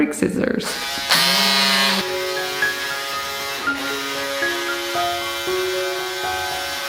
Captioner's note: tool buzzes; gentle music